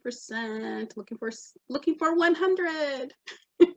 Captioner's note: chuckles